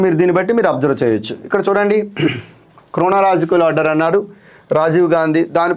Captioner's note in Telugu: గొంతు సవరించుకోవడం